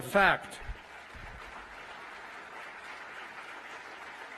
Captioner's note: applause